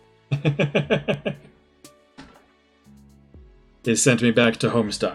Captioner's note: laughs